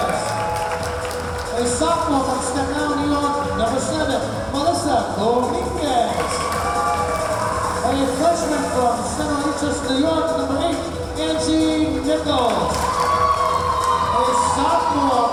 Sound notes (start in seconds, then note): 0.0 cheering; 5.9 cheering; 6.1 clapping; 12.4 cheering